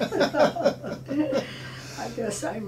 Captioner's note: laughing